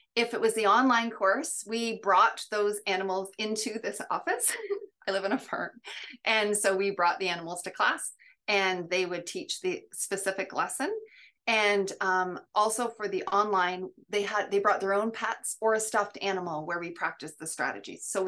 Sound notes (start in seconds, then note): 4.5 chuckles